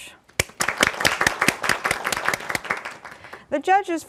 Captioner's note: applause